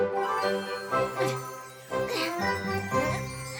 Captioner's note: grunting; tinkling